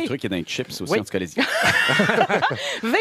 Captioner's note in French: rires